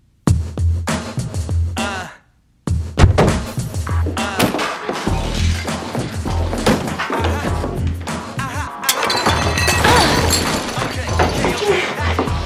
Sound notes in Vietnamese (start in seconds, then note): 0.2 giọng đàn ông; 4.3 loảng xoảng; 4.3 tiếng li bể; 11.0 Six rên lên sung sướng